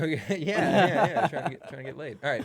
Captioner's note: laughing